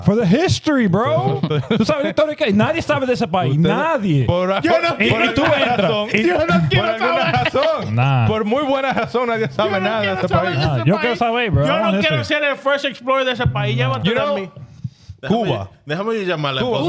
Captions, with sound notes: For the history, bro. (Speaking In Foreign Language) First Explorer, the Sepai, you know. Cuba.